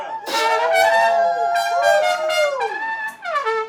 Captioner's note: crowd cheering, exclaiming